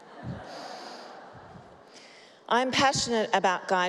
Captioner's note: laughter